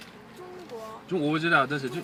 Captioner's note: mandarin